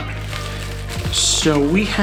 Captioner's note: rustling